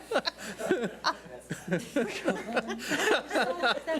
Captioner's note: laughing